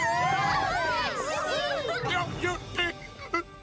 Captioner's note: cheering